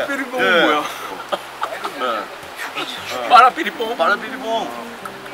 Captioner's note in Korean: 웃음